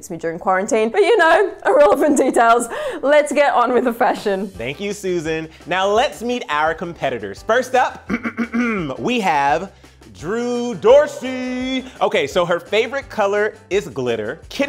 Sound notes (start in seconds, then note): 8.0 clears throat